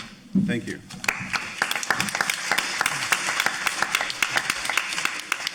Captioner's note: audience applauding